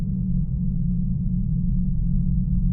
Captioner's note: low rumble